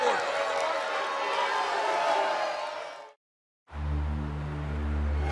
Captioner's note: cheers and boos